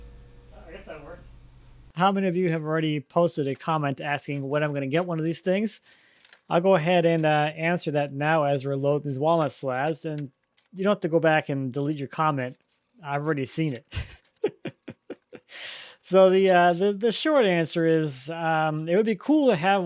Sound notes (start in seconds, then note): 13.8 laughs